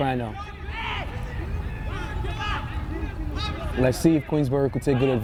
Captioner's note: players shouting